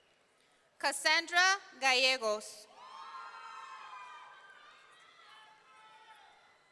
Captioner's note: audience cheering